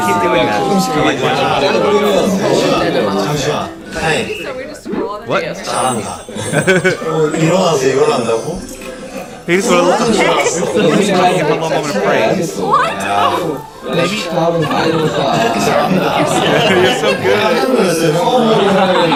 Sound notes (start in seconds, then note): 8.5 haha